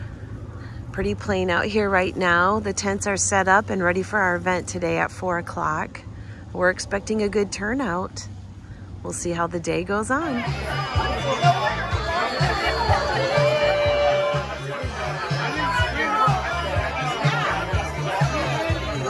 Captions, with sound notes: Pretty plain out here right now. The tents are set up and ready for our event today at 4:00. We're expecting a good turnout. We'll see how the day goes on. (people chattering indistinctly) (upbeat music)